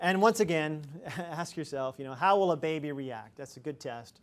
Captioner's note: chuckles